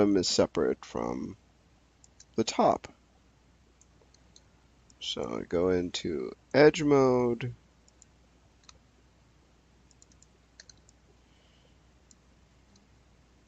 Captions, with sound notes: is separate from the top. So, I go into edge mode. (mouse clicking)